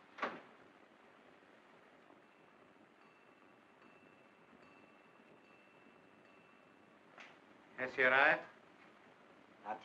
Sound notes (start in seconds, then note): 0.1 door closes; 2.2 bell ringing